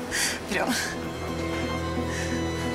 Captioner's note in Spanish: Sollozos